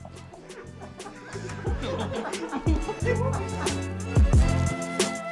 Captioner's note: laughing